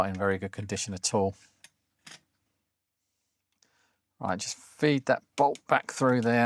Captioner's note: silence